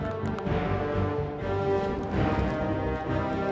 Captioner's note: joints popping; intense music